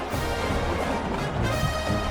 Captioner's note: crowd Noises